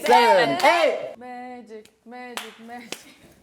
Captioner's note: in a low voice